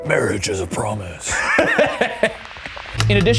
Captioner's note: laughing